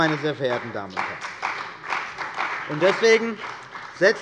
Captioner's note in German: Beifall bei der CDU und dem BÜNDNIS 90/DIE GRÜNEN